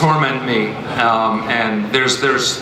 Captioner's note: panelists laugh